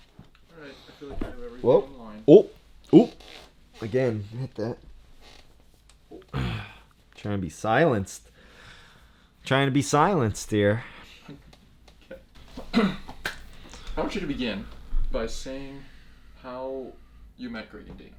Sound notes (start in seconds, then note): 1.0 mic bump